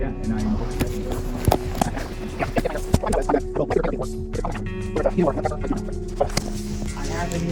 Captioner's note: fast forwarding